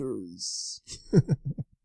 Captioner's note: laughs